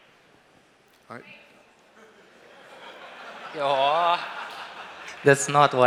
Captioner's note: Lachen